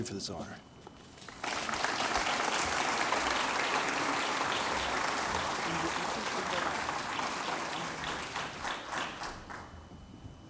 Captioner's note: applause